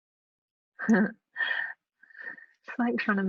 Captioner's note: chuckles